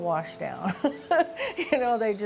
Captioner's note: chuckles